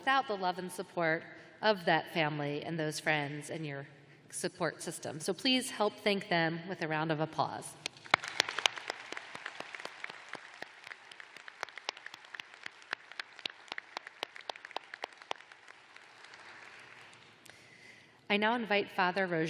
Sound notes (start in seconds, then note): 7.8 applause